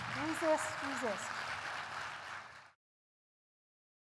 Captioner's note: applause